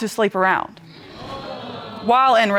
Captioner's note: audience exclaiming